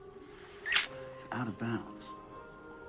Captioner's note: lips smack